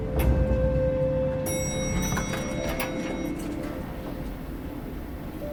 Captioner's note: elevator dinging